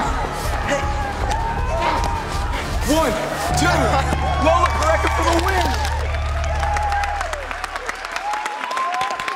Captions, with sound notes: - One, two, Lola Porecca for the win! (crowd cheers)